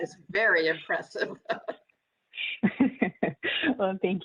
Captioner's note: laughter